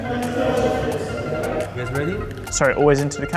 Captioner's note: people chattering